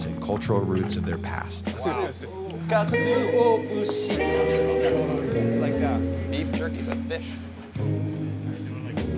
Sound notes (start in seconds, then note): 2.8 speaking in Japanese